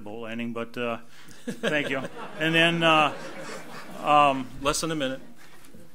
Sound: audience laughs

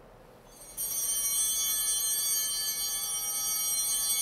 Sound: bell ringing

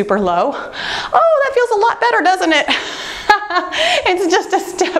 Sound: laughing

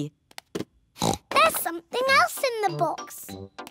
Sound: oinks

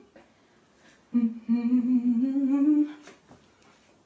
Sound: humming

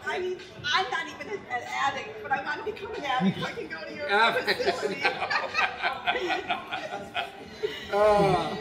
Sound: giggling

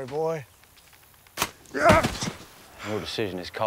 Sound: grunts

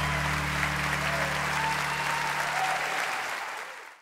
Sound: applause

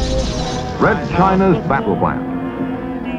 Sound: television

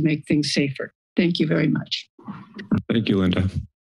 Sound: mic thumps

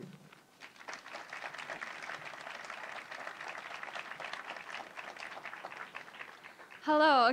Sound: applause

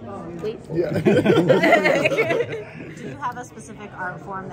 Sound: laughing

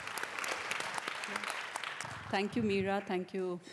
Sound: applause

